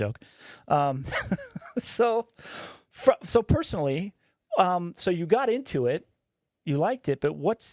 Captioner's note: laughing